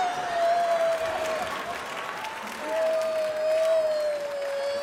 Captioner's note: applause and laughter